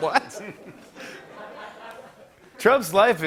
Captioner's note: laughter